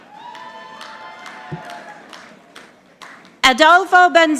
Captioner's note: audience applauding